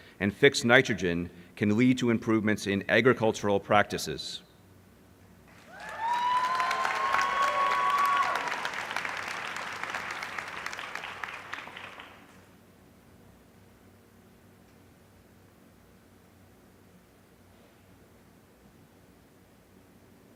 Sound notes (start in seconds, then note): 5.4 applause